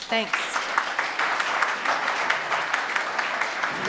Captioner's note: audience claps